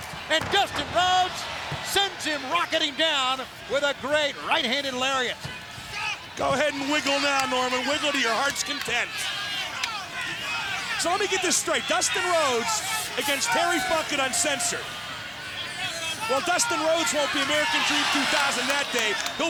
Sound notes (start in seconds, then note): 9.3 crowd yelling